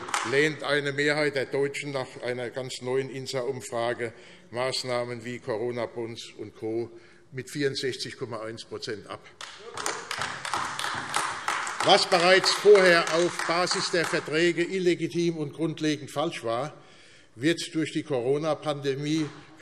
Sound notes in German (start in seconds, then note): 9.4 Beifall AfD